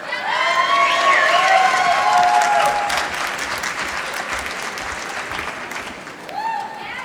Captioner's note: applause